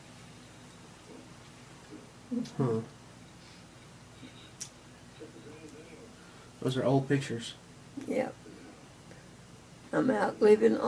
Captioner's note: hmmm